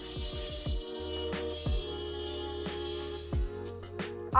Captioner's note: machine whirring